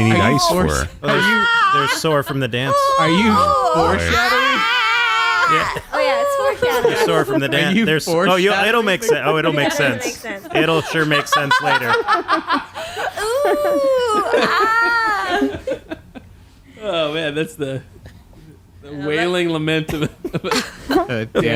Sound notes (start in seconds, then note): 2.6 clown wailing